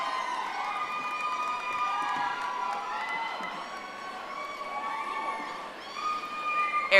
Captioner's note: audience applauding